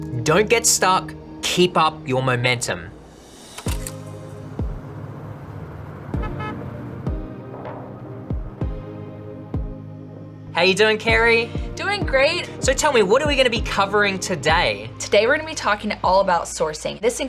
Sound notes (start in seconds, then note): 3.2 upbeat music; 5.8 car hooting; 6.1 upbeat music